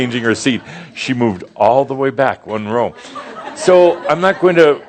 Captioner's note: more chuckles